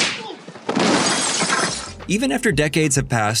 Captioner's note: glass breaking